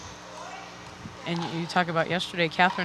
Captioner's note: people chattering